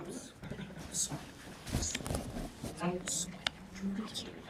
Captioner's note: students whisper